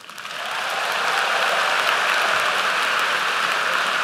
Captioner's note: applause